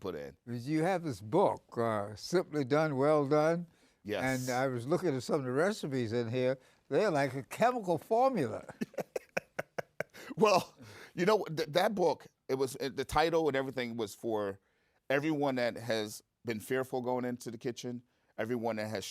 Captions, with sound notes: That's how much you put in. Cause you have this book simply done. Well done. Yes. And I was looking at some of the recipes in here. They're like a chemical formula. (laughter) Well, you know, that book, it was the title and everything was for everyone that has been fearful going into the kitchen.